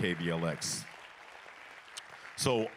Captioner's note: applause